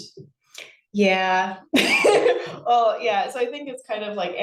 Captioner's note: laughs